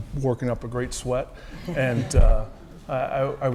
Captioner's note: laugh